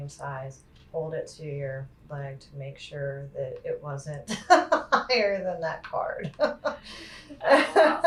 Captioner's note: laughter